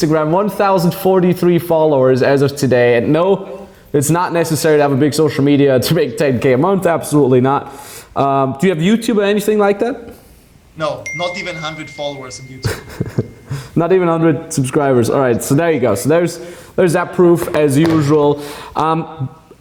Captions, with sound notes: 1043 followers as of today at no, it's not necessary to have a big social media to make 10 K a month absolutely not. Do you have YouTube or anything like that? (peep) - No, not even hundred followers in YouTube - Not even a hundred subscribers all right, so there you go, so there's that proof as usual